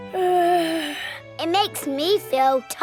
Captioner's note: yawns